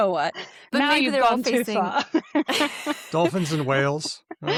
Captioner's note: laughs